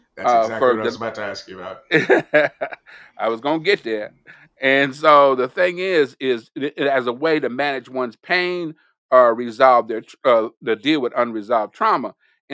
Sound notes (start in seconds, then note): 1.8 laughs